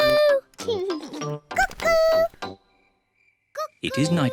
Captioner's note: laughs